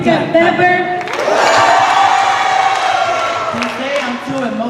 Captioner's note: cheers and applause